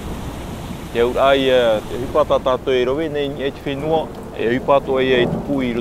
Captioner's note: speaking in foreign language